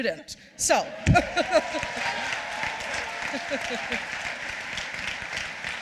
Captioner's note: cheers